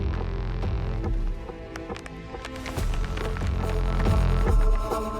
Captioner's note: debris clatters